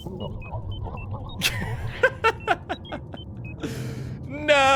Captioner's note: laughs